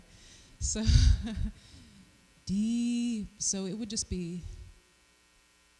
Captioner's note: rhythmic wooing